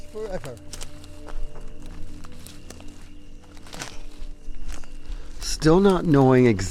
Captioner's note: tender suspenseful music; twigs crackling